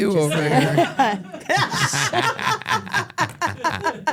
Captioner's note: everyone laughs